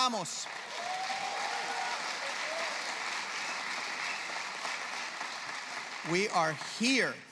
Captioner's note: applause